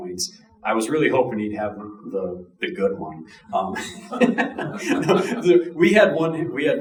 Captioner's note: chuckling